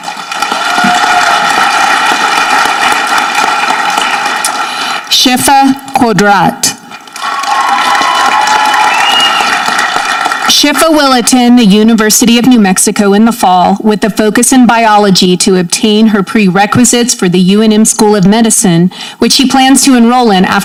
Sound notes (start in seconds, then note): 0.0 audience clapping; 7.1 audience cheering